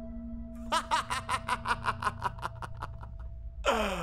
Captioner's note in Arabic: ضحك